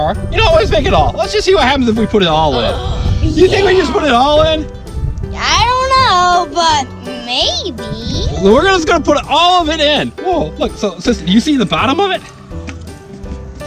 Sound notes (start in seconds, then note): 2.5 gasps